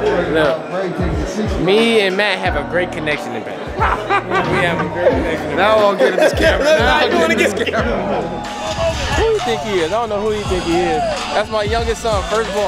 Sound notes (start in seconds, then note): 3.7 laughs